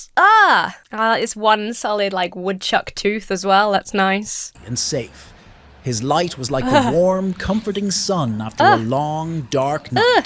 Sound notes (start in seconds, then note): 6.6 shudders